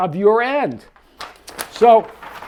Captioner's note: paper rustling